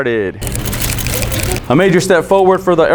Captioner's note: cameras flashing